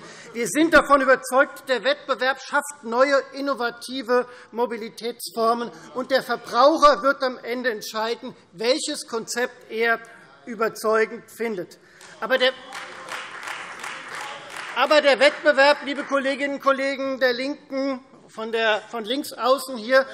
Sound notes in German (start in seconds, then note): 12.0 Beifall Freie Demokraten